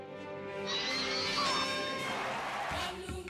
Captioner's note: audience cheering